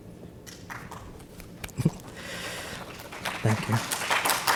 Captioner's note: speaks Turkish; audience applauds